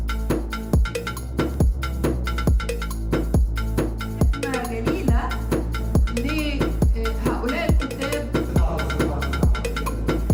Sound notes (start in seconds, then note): 4.9 presenter speaking in foreign language